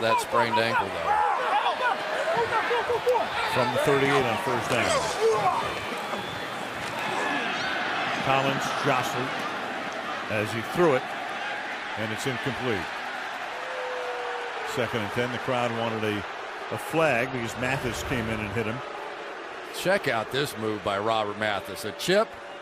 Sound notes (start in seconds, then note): 13.3 crowd clamoring; 19.5 booing